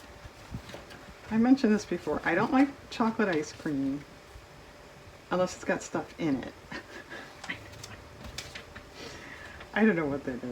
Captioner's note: laughs